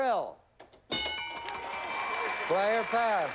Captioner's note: applause